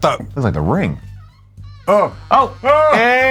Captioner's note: door squeaking open